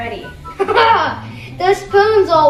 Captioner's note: laughs